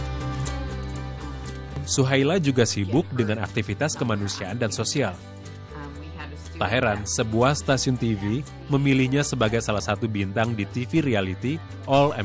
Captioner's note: non-english speech